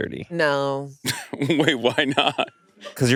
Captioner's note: laughs